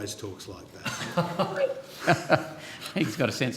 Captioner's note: attendees laughing